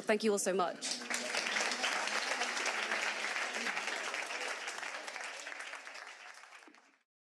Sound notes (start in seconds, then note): 0.8 audience applauding